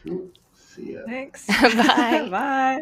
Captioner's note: laughs